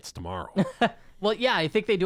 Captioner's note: laughs